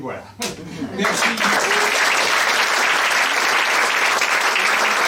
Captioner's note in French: applaudissements